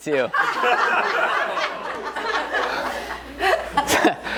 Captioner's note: audience laughs